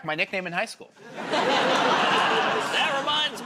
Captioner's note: laughter